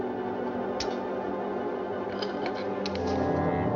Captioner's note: lighter Snaps Shut